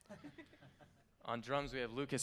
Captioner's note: band laughing